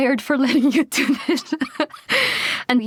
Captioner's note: laughs